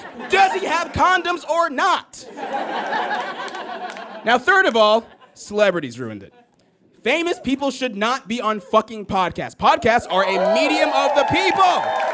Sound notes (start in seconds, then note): 2.2 audience laughs; 3.2 scattered applause; 11.9 audience cheers and applauds